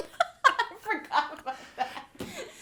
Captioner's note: laughs